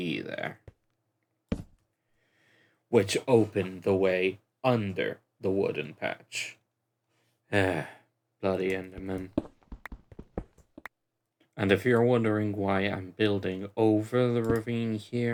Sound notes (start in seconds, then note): 7.6 sigh